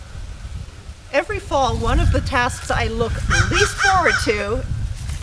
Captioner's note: rude bird interrupts